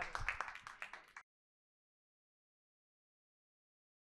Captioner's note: audience applauding